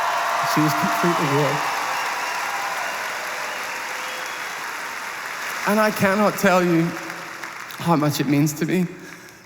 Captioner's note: audience Cheering